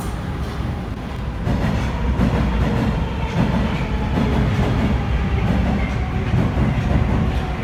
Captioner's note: arrival of another train at the station; arrival of train at the station